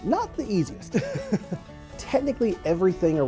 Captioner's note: laughs